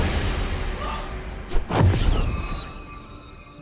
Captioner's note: sharp whooshing